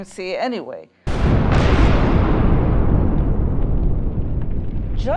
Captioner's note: explosion